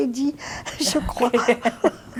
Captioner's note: laughing